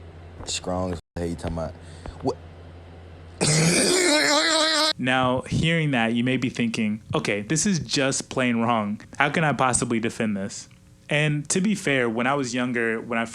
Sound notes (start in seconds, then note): 3.4 laughs in HD